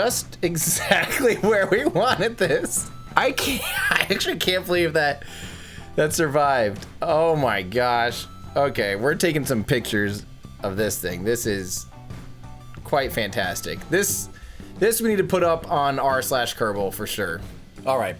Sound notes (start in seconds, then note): 0.6 laughs; 5.2 gasps